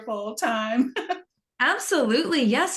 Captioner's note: laughing